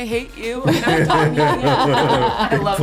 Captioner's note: laughter